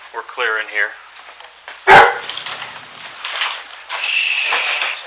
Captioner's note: dog barks, rattles cage